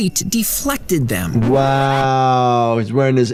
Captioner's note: record scratches